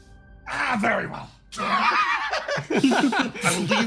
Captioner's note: laughs